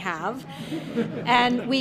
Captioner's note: congregation laughing